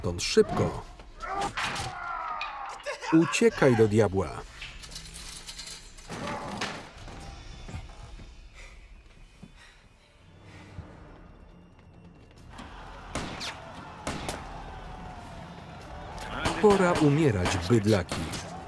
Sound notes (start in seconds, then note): 0.3 yelling; 8.2 panting; 13.0 gunfire